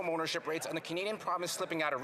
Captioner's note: none